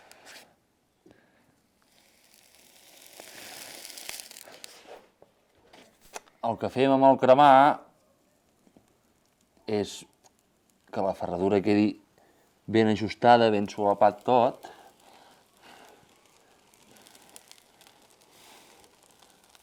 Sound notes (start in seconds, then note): 1.1 sizzling